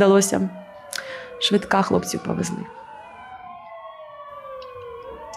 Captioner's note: ambulance siren